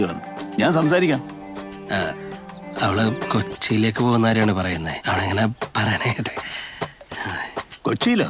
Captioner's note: stammers